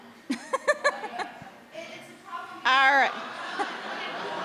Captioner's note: audience laughing; laughing